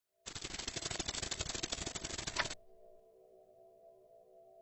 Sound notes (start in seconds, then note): 0.2 machine typing